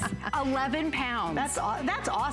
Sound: laughter

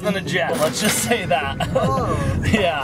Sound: cash register ka-chings; dad chuckles

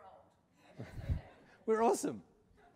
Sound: laughter

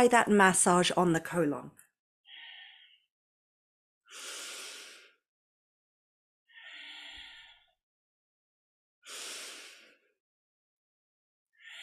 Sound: breathes

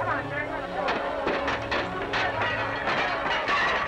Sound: gunshots

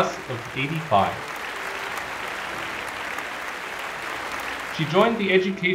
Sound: applause

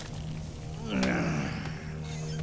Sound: groaning

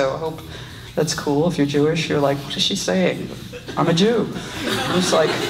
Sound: audience laughs

